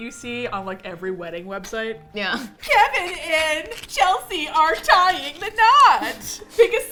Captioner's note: laughs